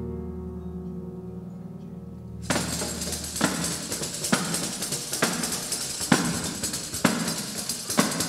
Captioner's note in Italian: Applauso